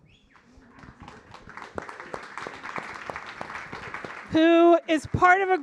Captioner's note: audience applauding